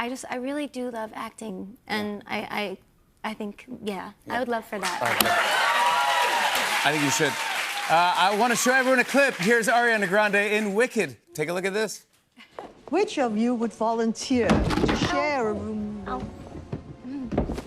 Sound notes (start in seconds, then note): 4.8 cheers and applause; 15.2 clattering